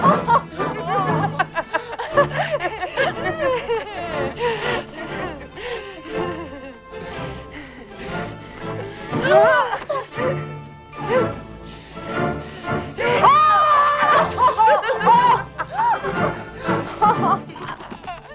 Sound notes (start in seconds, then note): 0.1 both laughing; 10.9 Tracima gasps; 12.1 both laughing; 13.0 Hundra yells